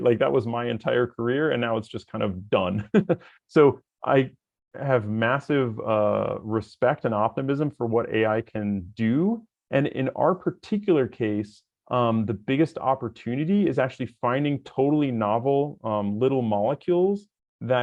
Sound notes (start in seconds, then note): 2.7 chuckles